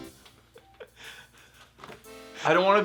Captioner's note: laughing